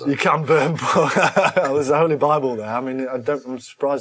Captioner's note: laughs